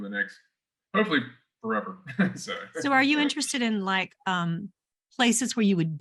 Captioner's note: chuckles